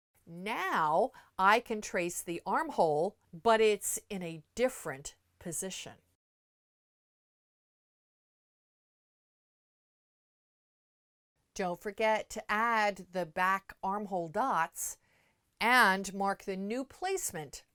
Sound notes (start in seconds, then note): 6.1 no Sound Present